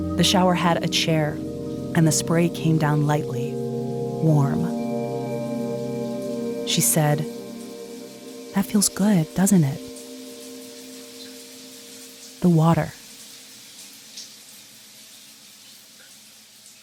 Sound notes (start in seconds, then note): 0.0 dramatic music continues; 4.9 dramatic music continues; 13.3 water splashing